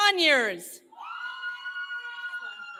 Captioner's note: cheering